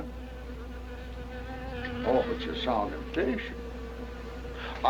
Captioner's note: none